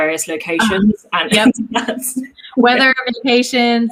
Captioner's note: both giggle